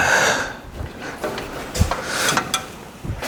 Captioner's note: snorts